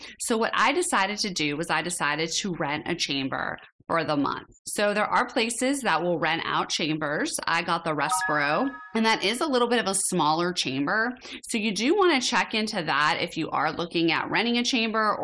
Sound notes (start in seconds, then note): 8.0 chime ringing